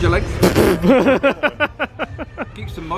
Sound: laughs

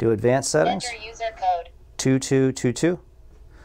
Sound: digital voice

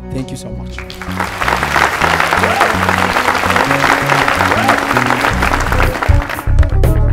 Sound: applause

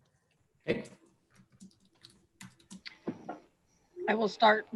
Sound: computer keyboard clicking

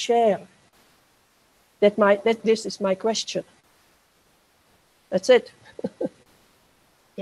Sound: chuckles

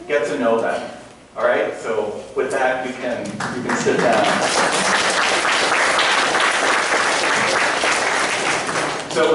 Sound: applause

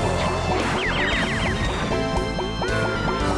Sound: explosion; yell

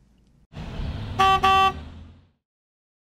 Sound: bus honking

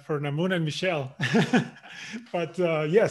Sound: chuckles

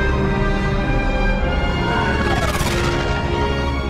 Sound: brass, full orchestra; vyrrrrr

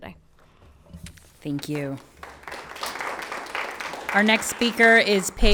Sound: everyone applauds

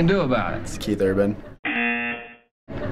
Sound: buzzer

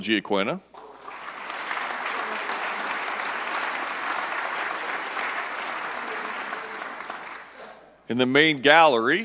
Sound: applause

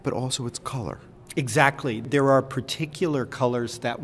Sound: voiceover

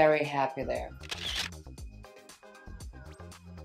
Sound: camera shutters; bouncy pop music

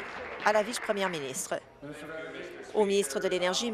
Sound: applause

